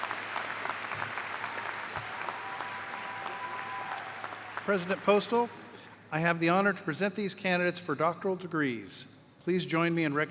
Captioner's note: cheers and applause